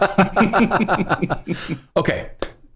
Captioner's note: laughter